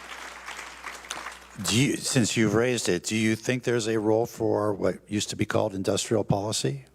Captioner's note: applause